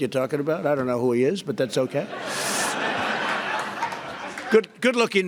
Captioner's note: laughter